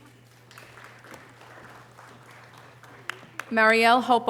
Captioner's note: audience applause